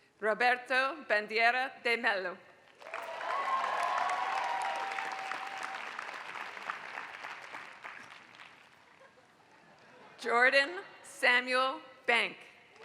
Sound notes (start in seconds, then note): 2.6 applause; 2.8 laugh